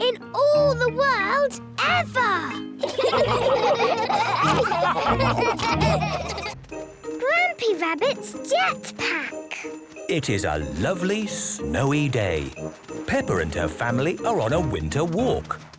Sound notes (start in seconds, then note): 2.8 all laughing